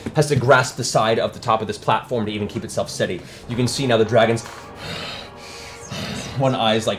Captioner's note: heavy breathing